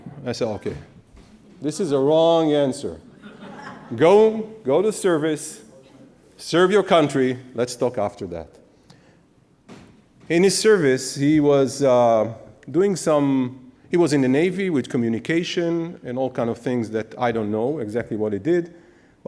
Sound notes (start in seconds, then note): 3.0 audience laughs